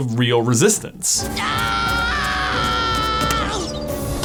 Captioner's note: screams